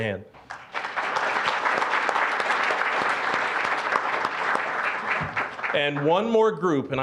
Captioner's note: applause